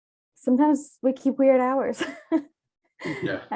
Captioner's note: chuckles